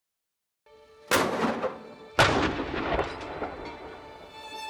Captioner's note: cannons firing